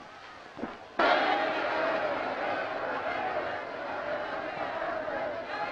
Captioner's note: crowd shouting